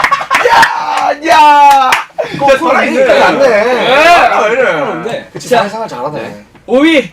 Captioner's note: cheering